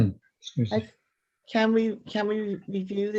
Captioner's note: clears throat